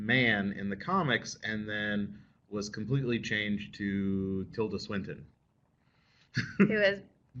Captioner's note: laughter